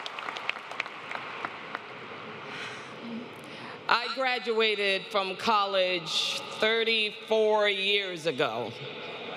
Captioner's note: applause